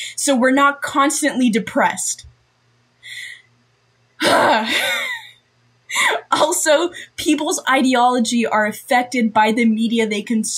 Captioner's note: audible sigh